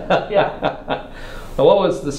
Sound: laugh

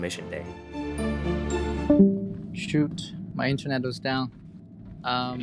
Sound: offline alert

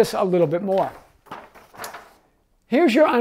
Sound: paper crinkling

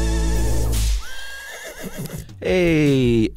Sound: whipping; horse neighing

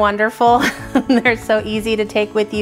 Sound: laughs

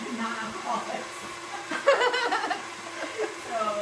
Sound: laughs

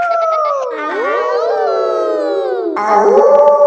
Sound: kids howling; howling; wolf howling loudly

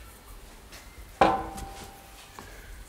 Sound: clanking

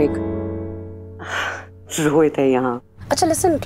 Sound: gasps

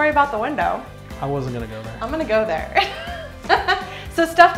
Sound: laughs

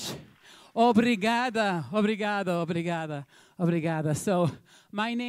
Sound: speaking in Portuguese

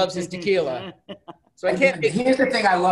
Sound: giggling

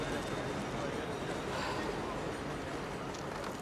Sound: sighs

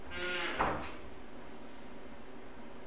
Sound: door closing

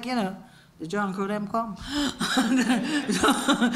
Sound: laugh

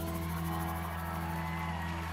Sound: cheering, applause

